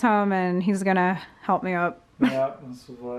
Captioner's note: laughter